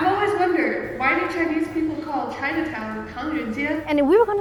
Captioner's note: speaking Mandarin